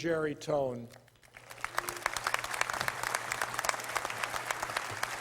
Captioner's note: applause